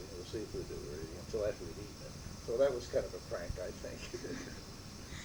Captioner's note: laughter